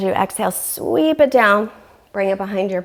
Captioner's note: deep breathing sounds